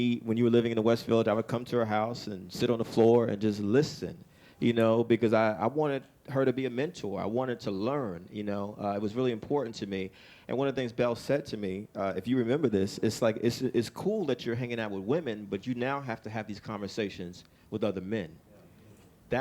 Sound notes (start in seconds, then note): none